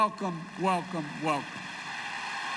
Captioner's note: applause